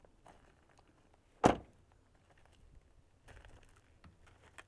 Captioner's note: door closes